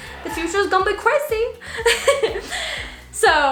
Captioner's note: laughs